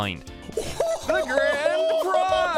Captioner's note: excited laughing